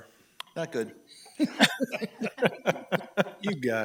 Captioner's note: laughs